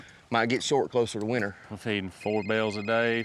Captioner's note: cell phone rings